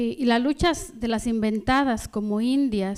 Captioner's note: speaking spanish